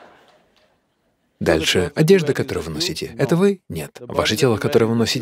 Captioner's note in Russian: Смех/аплодисменты